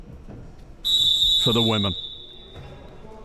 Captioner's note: whistle chirping